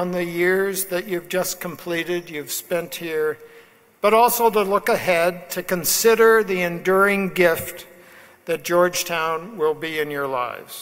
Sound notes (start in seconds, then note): none